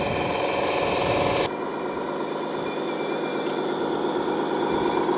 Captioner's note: roaring dozer engine